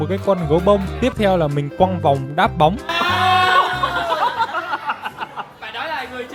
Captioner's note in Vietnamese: tiếng cười